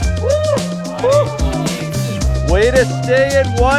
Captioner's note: cheers